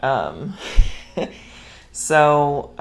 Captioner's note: laughs